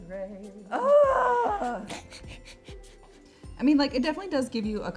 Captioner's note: giggles